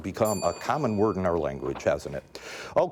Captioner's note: bell dinging